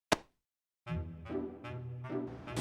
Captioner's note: none